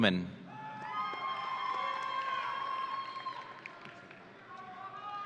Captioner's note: audience cheering